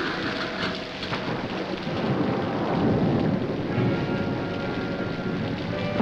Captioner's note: thunder crashing; rain splashing